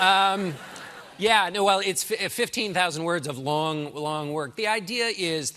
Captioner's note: laughter